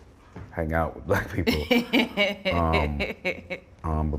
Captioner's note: laughter